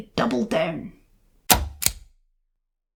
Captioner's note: click